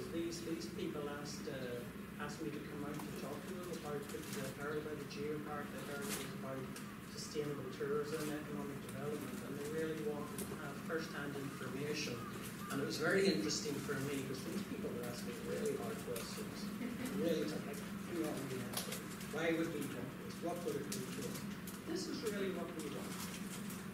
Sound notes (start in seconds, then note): 16.7 laughter